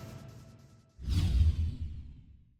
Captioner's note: whoosh